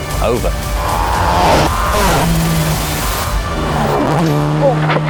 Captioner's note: engine revving